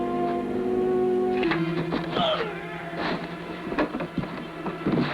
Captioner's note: Harris grunting